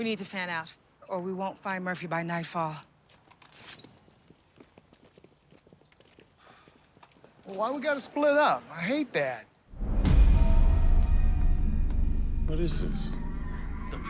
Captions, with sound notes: We need to fan out, or we won't find Murphy by nightfall. - [sighs] Well, why we got to split up? I hate that. [suspenseful music] - What is this.